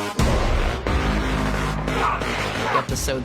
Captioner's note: grunting